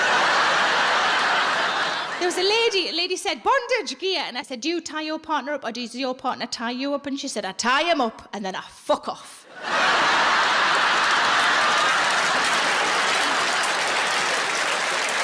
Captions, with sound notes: (audience laughs) There was a lady, a lady said, "Bondage gear." And I said, "Do you tie your partner up "or does your partner tie you up?" And she said, "I tie him up and then I fuck off." (audience laughs and applauds)